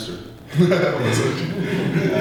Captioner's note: laughter